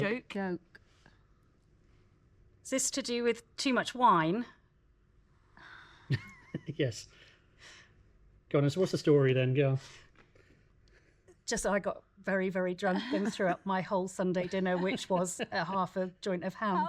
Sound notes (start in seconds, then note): 6.1 chuckles; 13.1 everyone giggles